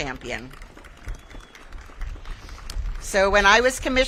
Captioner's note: audience claps